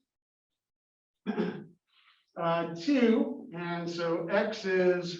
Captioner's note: cough